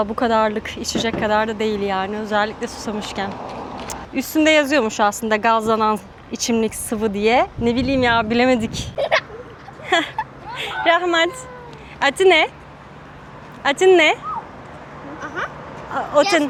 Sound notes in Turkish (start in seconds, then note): 8.9 kahkaha